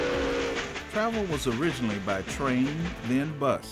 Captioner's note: train whooshing and choo-chooing